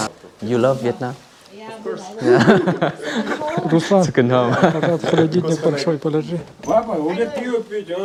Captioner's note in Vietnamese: Tiếng cười